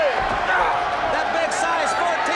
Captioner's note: crowd chatter